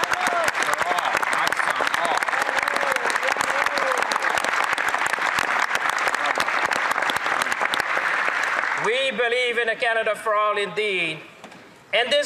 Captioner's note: some Applause